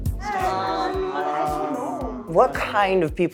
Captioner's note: group chattering